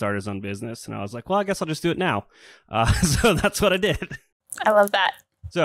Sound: laughs

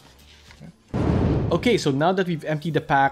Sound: whooshing

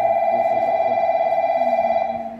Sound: beeping

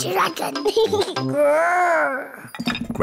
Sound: giggles, growls

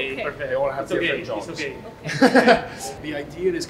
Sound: laughs

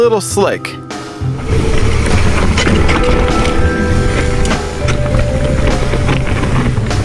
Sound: whirring; pop music

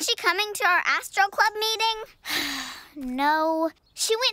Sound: sighs

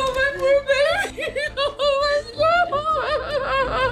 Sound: sobbing

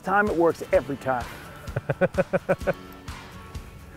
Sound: laughs

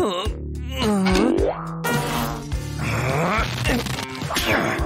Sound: groans; moaning

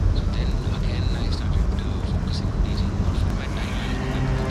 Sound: radio playing

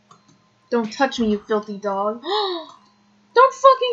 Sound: gasp!

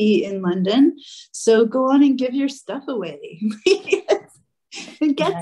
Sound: laughing

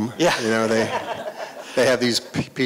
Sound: laughter

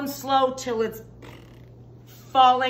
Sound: blowing raspberries

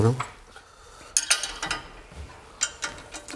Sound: clacking

